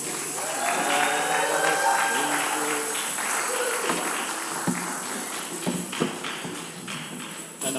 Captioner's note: shakers rattling; congregation applauding; congregation cheers